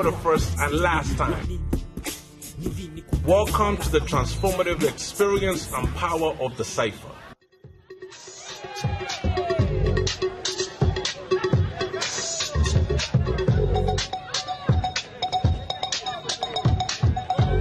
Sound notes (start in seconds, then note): 9.1 crowd cheering; 14.8 hip hop music